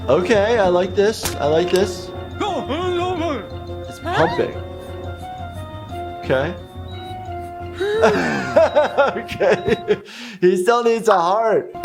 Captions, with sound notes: Okay, I like this, I like this. (gibberish language) He's pumping. Okay. (heart monitor beeps) Okay, He still needs a heart.